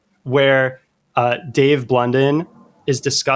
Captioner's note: uh